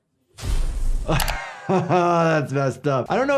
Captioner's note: Jordan laughing; frightening music